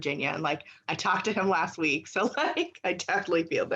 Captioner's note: laughs